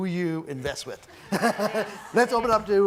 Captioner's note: laughs